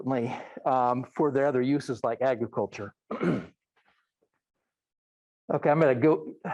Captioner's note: clears throat